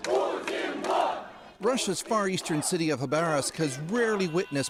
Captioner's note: chanting